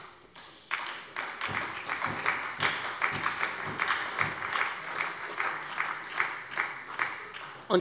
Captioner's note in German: Beifall bei der SPD